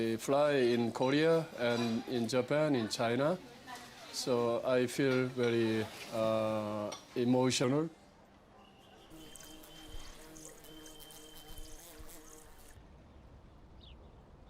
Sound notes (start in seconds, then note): 7.0 car horns honking